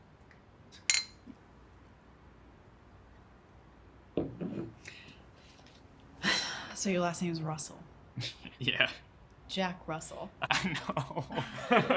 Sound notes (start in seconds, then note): 0.8 bottles clink; 6.3 sighs; 8.3 chuckles; 10.5 both laugh; 11.2 laughs